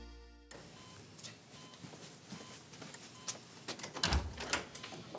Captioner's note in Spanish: Sonido del monitor